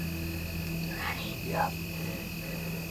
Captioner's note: whispering